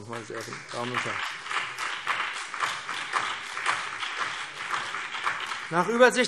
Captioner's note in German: Beifall BÜNDNIS 90/DIE GRÜNEN und CDU